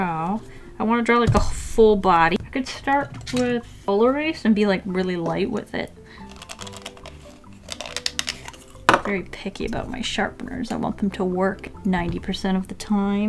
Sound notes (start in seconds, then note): 6.2 sharpener sounds off screen